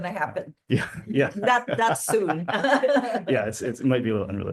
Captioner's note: laughs